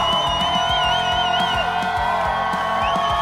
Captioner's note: A loud whistle from the crowd